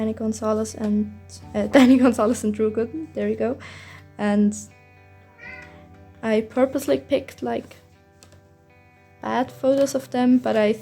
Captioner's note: meow